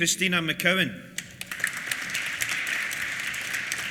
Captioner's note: applause